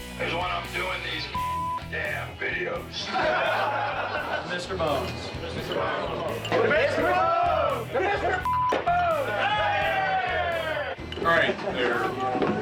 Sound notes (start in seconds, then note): 2.8 men laughing; 9.5 all cheering